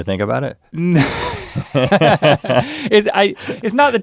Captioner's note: both laugh